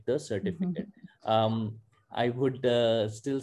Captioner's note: chuckles